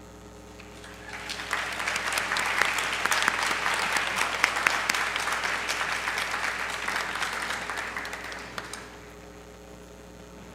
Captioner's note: applause